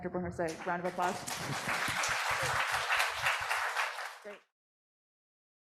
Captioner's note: audience clapping